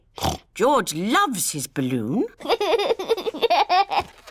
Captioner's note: snorts; laughs